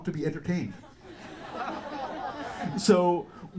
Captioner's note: audience laughter